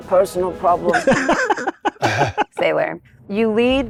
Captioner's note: laughing